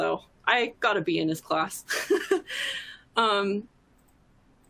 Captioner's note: laughs